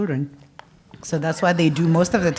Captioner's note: laugh